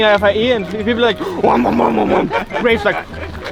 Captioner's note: nom nom nom